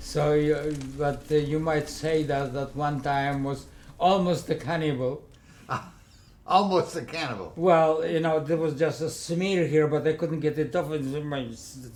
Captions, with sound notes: So you might- you might say that at one time was almost a cannibal. (Laughing) Almost a cannibal? Well, you know, there was just a smear here but I couldn’t get it off